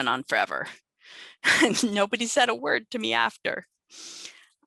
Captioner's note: laughter